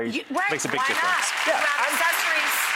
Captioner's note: audience applause